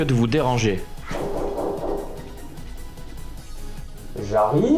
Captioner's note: sound of someone knocking loudly on the door